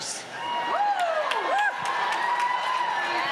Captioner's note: cheering and applause